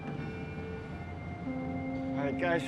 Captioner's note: boat horn blaring